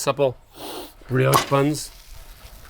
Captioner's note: sniffing